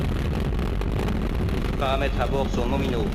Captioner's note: speaking french